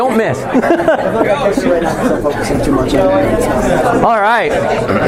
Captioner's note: chuckling